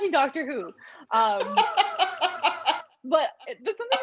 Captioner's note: laughter